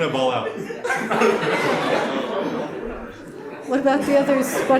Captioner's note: audience laughs